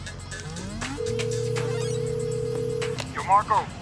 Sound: phone ringing tone

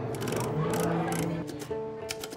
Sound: soft cello music; typewriter clicking; typewriter clacking

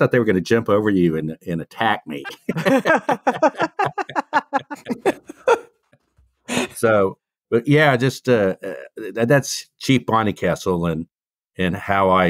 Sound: laughing

